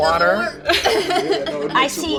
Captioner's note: laughing